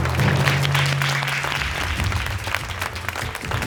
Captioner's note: audience applauding